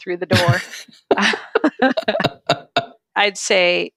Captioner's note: laughing